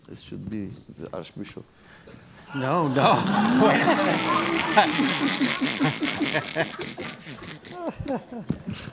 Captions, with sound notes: - Hmm, this should be the Archbishop. - No, no. (laughing)